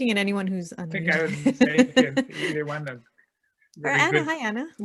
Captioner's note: laughing